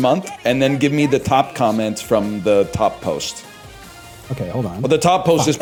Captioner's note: laughs